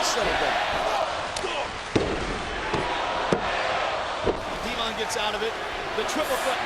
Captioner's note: applause